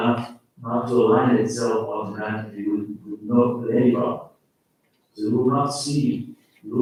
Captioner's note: faintly speaking